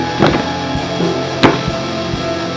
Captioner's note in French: Coup contre la porte